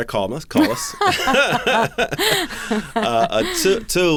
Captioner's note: laughter